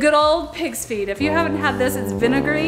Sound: horn blows sadly

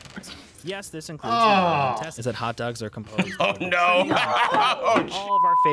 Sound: laughs

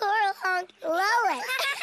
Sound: laughs

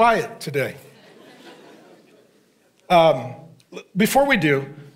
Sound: congregation laughing

